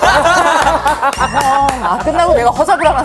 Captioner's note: Devil's whisper